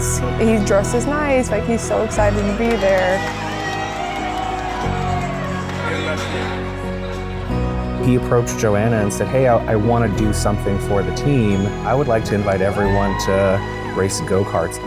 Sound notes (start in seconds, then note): 3.7 team cheers